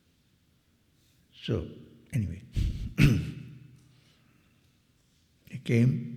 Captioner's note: clears throat